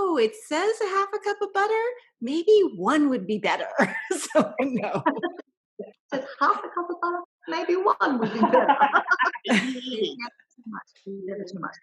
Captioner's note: laugher